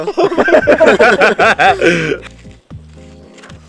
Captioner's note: laughs